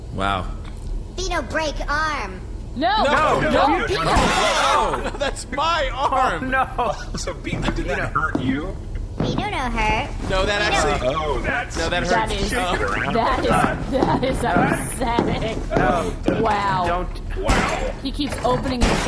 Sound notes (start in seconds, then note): 2.8 the crew cry out in horror, impact noises; 12.6 shuddering